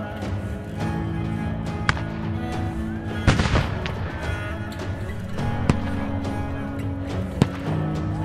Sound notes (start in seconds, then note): 3.2 gun firing; 5.4 upbeat music